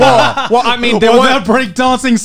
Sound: everyone laughs

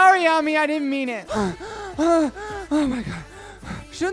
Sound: panting

